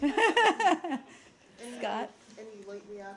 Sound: laughter

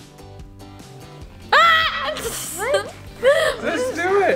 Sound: yelling

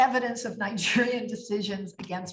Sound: laughs

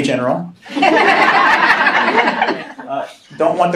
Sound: laughing

